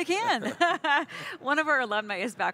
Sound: laughs

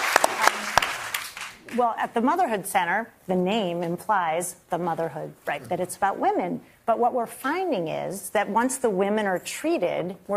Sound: applause

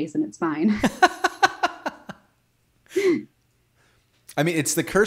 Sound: laughing

